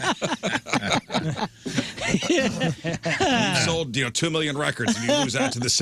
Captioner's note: laughing